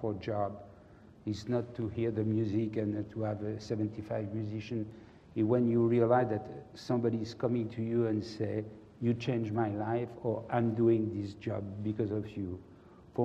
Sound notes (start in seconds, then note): none